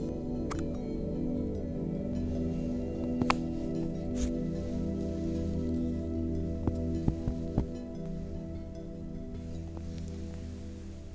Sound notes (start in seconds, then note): 0.5 lid pop; 3.1 light thump